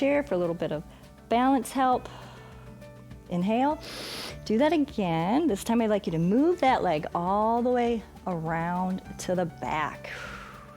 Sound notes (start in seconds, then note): 3.8 inhales; 10.1 exhales